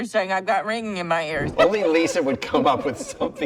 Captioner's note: laughs